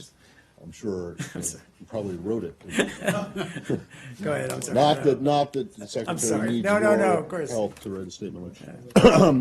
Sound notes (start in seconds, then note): 2.6 laughter